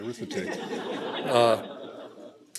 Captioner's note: laughter